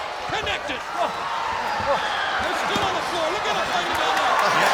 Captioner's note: applause